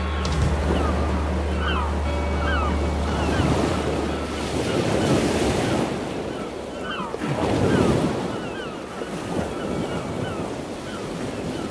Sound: ocean Ambience

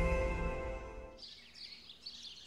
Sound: birds chirping

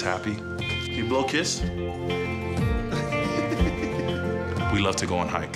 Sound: laughs

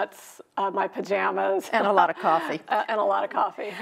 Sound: chuckling

